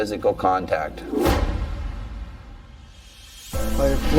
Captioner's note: scene swooshing